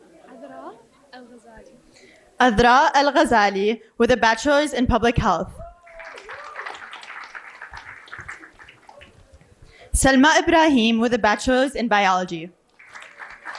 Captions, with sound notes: - Adale El Gazale with a bachelor's in public health. (applause) Selma Raheem with a bachelor's in biology.